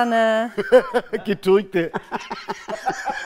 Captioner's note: Lachen